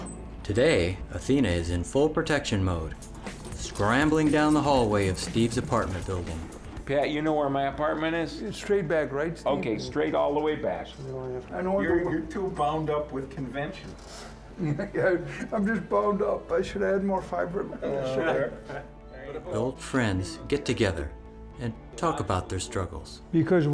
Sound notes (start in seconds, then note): 14.2 chuckles